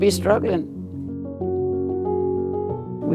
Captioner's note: soundbite of archived recording